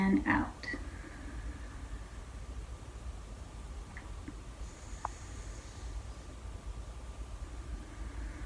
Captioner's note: breathing